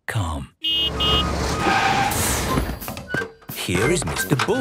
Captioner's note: honking, engine revving